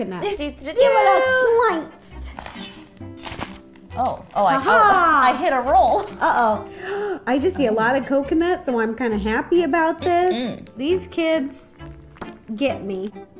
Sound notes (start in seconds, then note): 2.3 slices; 6.6 gasps